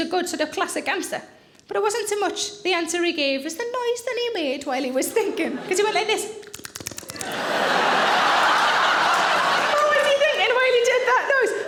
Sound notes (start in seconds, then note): 6.4 smacking lips; 7.1 audience laughing